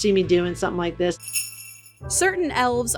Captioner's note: bells jingling